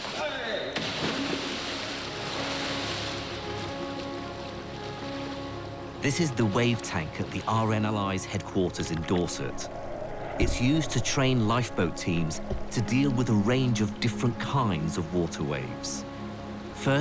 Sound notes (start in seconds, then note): 6.1 voiceover